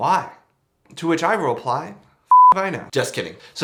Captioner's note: beep